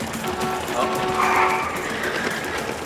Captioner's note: horn beeping